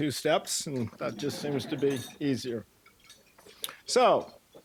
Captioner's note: audience laughing